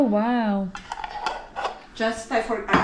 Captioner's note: closes lid